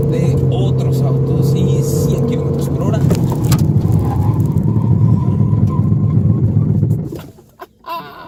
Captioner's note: tyres squealing